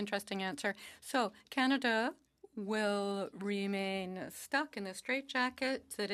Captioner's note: speaking French